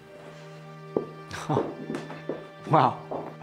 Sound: Tom laughs; Christian laughs

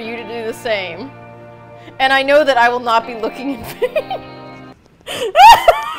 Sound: laughs

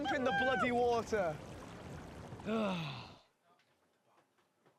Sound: sighs

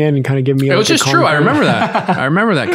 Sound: laughs

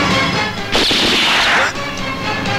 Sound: gunshot

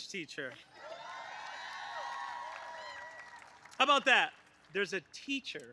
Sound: applause

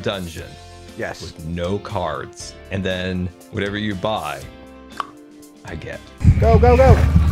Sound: clicks tongue

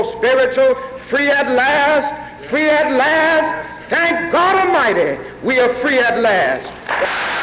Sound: applause

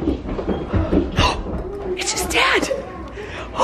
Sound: gasps

